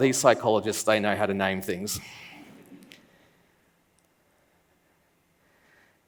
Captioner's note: laughs